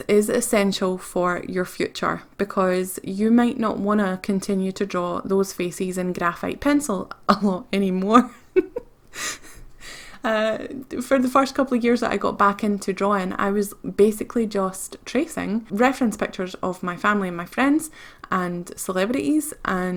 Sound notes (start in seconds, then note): 8.2 giggles